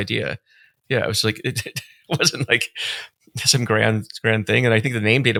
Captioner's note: chuckling